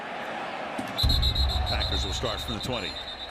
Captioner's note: whistle